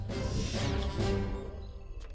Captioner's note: doors whir open